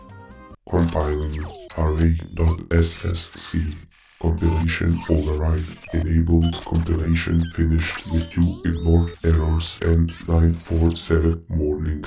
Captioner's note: robot noises and speech